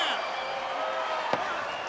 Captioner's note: crowd chatter; crowd cheering